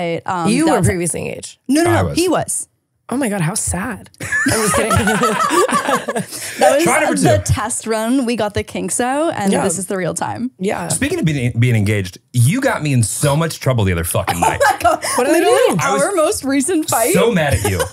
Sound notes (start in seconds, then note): 6.6 both laughing